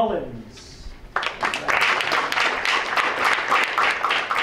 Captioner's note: applause